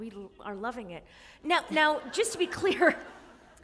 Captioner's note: laughter